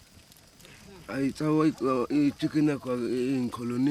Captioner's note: speaking local language